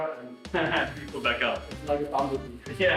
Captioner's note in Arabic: يضحك